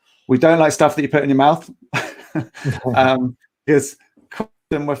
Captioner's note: laughing